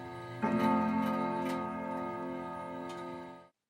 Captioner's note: bell ringing